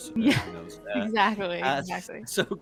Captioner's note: laughs